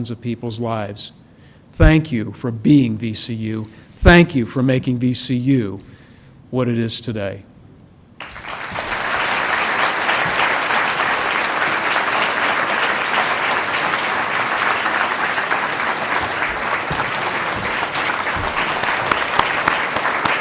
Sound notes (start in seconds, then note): 8.6 applause